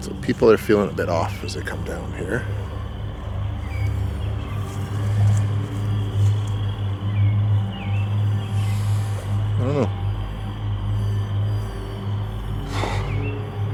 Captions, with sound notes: So, people are feeling a bit off as they come down here. (eerie music) I don't know (exhales).